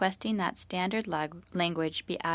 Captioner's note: speaking French